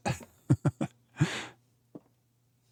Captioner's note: chuckles